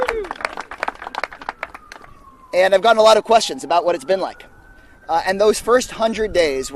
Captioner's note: applause